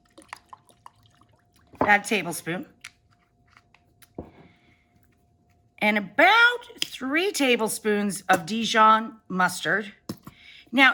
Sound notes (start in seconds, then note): 0.0 sauce splashes